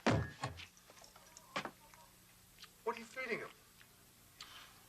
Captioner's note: head thuds